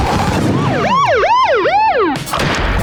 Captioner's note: sirens blaring